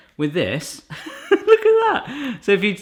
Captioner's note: laughing